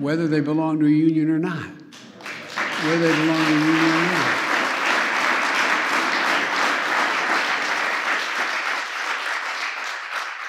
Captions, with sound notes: -- whether they belong to a union or not. (Applause.) Whether they belong to a union or not.